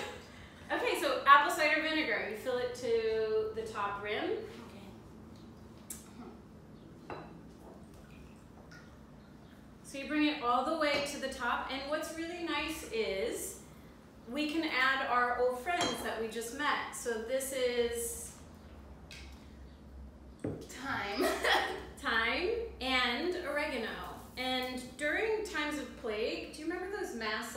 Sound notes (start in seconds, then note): 0.0 laughter; 20.1 laugh